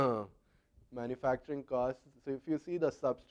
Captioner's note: cough